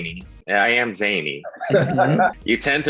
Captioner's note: Brandon laughs